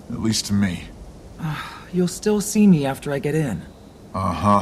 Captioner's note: sigh